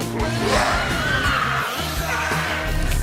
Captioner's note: screaming